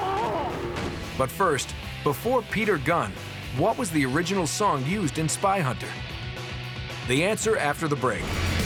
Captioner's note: screaming